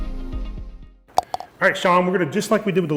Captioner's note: ball cup rattles